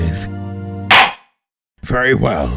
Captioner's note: gavel slams!